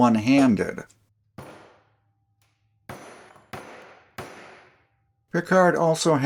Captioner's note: germanic hammer sounds